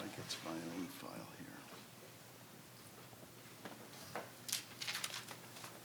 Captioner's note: faintly speaking